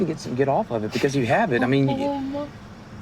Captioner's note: whimpers